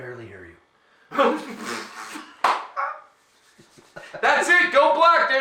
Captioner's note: laughing